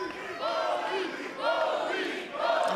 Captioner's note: fans chanting